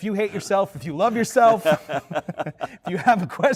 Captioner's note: laughter